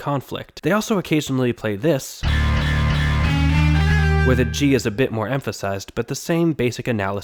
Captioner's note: bang